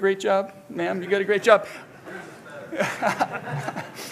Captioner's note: laughs